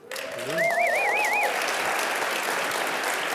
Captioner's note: cheering